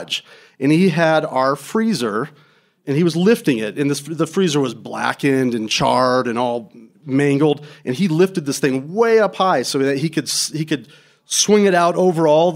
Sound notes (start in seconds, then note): none